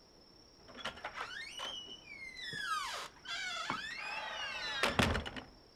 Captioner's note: door creaks open, closed